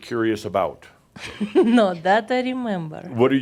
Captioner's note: chuckles